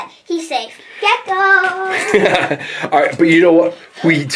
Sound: chuckles

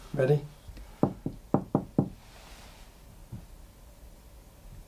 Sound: knocks on ceiling

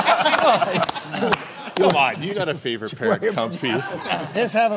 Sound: laughter

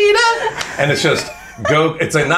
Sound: claps

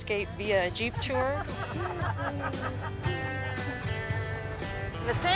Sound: laughter

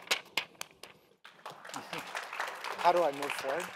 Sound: applause

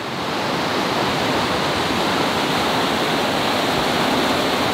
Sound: river running

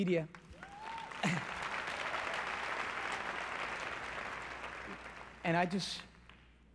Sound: applause

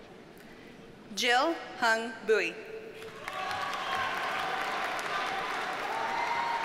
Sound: audience cheers and applauds

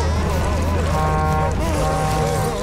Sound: crying; honking

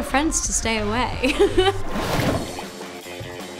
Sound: chuckles

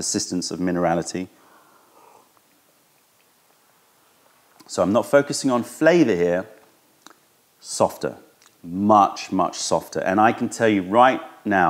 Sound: sips tea

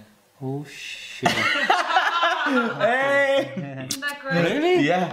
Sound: both laughing

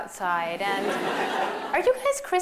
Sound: laughter

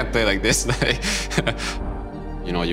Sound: laughs

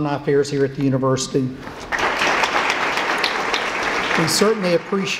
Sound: applause

